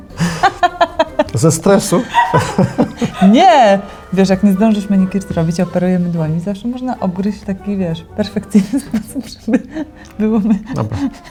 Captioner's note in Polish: śmiech